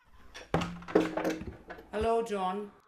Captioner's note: door opens